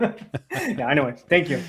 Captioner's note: laughter